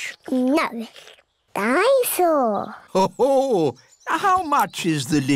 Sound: daddy pig laughs

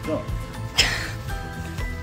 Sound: laughs

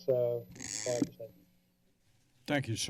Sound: mic rustling

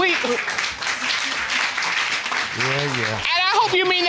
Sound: audience applauds

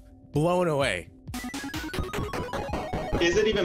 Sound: game beeps

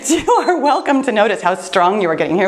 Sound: laughs; timer beeps

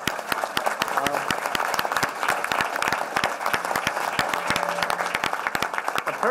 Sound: applause

